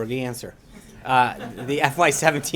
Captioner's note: laughter